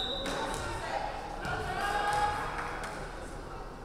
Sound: referee whistling

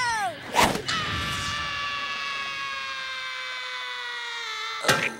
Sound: screaming

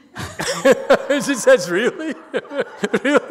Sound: laughs

